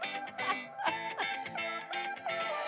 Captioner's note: mentor laughs; upbeat music